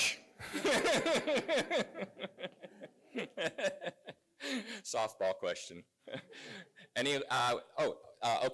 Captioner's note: laugh